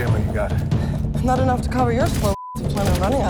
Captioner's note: tense music; beeps